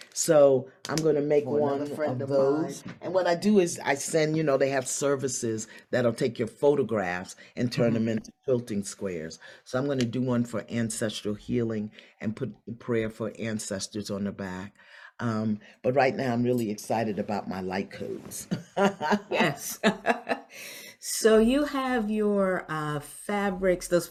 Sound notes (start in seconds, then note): 18.5 both laugh